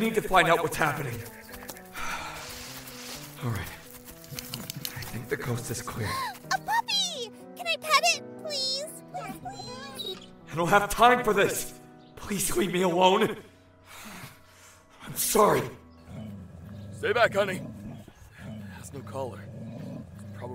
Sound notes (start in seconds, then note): 1.8 deep breath; 6.0 happy gasp; 13.6 dog growls